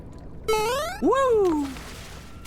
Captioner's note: Mario jump sfx; splashing